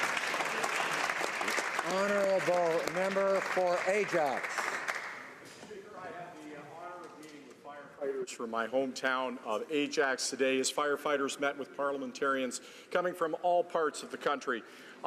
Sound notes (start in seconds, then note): 3.0 speaking French; 4.8 some Applause